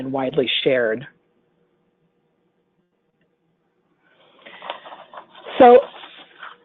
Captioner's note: silence